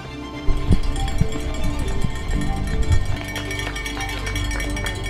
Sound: tin clanging

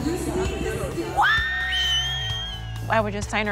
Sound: cheering

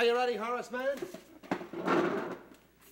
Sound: chair scrapes on floor

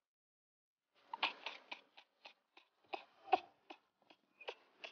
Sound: ha ha ha ha ha

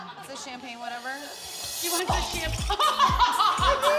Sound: laughter; laughter

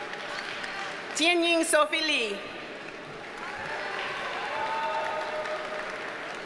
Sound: audience cheers and applauds

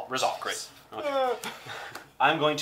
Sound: cries with sadness

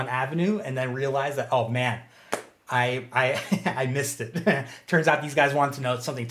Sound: chuckles

